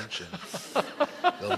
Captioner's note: laughter